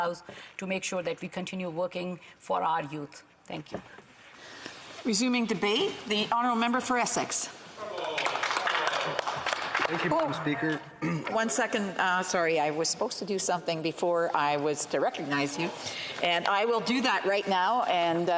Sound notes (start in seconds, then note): 11.3 some Applause